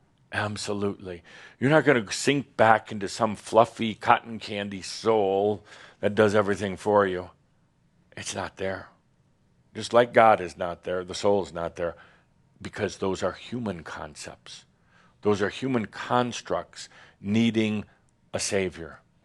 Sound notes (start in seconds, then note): none